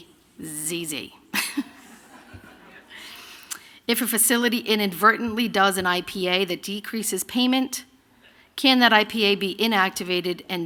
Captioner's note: laughter